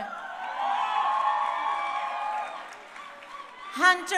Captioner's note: crowd cheering